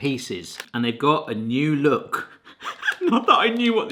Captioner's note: laughing